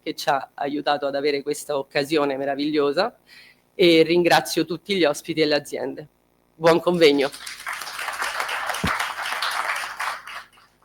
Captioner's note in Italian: Applauso